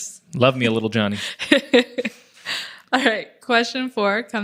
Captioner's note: laughs